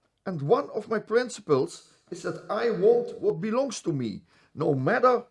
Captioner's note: none